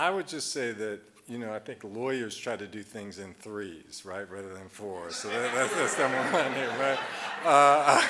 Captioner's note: audience laughing